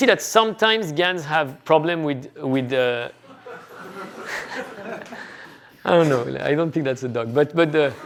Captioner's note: laughter